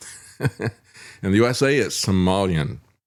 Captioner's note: laughs